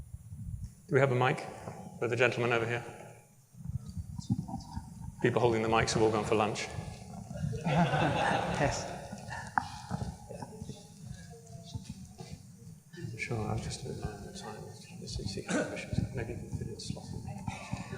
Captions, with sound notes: Do we have a mic for the gentleman over here? People holding the mics have all gone for lunch. [LAUGHTER]